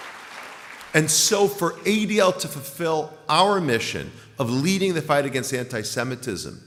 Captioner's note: applause